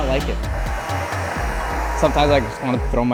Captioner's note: mixer whirring